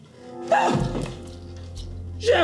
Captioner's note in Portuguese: gritinho assustado